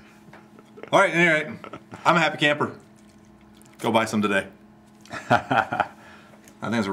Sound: laughs

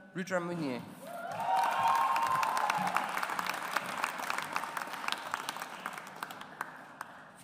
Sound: audience applauds

